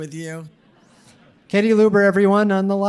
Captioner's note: audience laughing